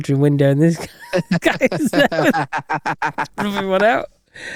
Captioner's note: laughing